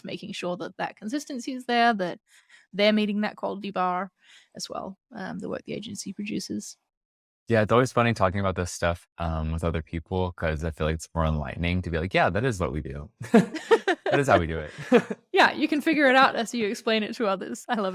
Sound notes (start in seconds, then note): 13.0 laughs